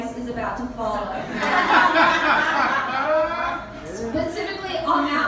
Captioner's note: laughter